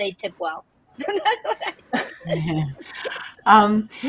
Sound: laughs

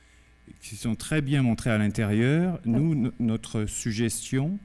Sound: speaking french

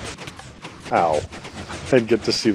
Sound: smack; chuckling

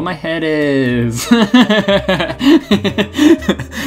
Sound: laughs

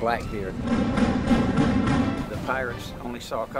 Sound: cannon fire

